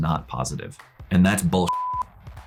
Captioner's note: beep